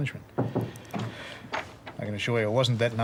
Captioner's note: knock at door